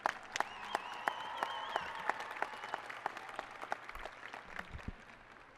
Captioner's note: applause and cheering